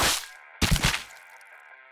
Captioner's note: loud slicing sound; fleshy thud